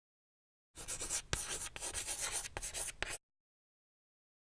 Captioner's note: chalk scratching